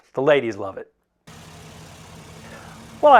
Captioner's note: car engine